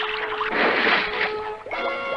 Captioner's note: splash!